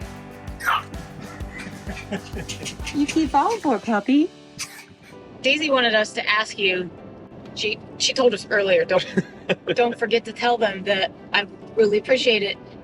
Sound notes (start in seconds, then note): 1.0 laughing